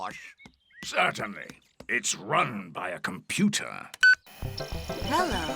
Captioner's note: beeps